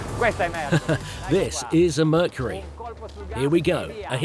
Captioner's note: chuckle